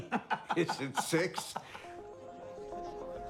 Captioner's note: laughs